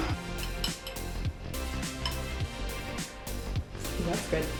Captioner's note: spoon clinks